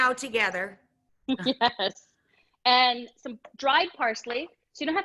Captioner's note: laughs